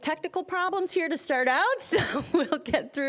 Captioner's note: laughing